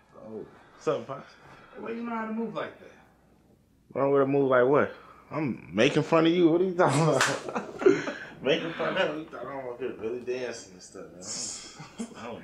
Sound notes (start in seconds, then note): 6.9 guys laughing; 6.9 hands slapping